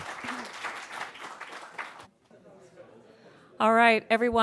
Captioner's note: applause